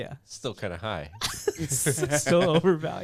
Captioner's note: laughs